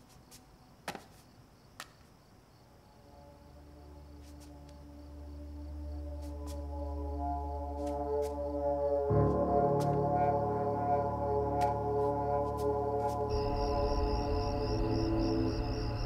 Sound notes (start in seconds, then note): 14.0 crickets chirping